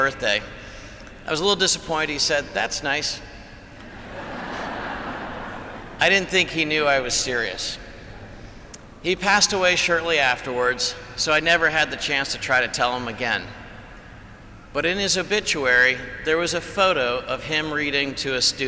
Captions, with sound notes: disappointed. He said, "That's nice." (Laughter) I didn't think he knew I was serious. He passed away shortly afterwards so I never had the chance to try to tell him again, but in his obituary, there was a photo of him reading to a student.